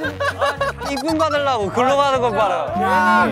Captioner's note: haha